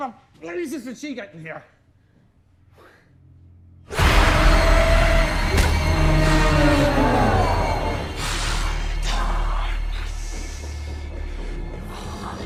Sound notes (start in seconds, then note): 4.0 intense frightening music; 5.5 blow thuds; 8.7 demon speaking in tongues